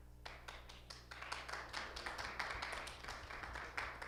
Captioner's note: audience applauding